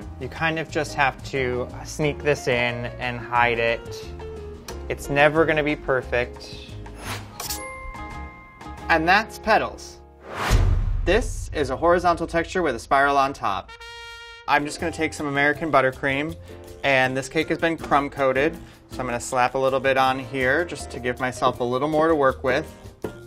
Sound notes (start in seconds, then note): 7.0 whooshing; 10.2 whooshing; 13.6 trumpet blares